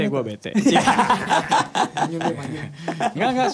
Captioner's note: laughs